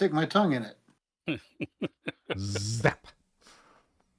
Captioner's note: laughter